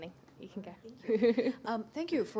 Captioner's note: laughter